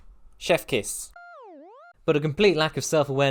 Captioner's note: smw_goal_iris-out.wav